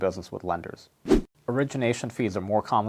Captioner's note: air whooshes